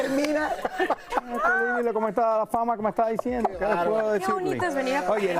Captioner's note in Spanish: risas